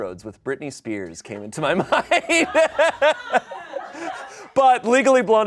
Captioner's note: everyone laughs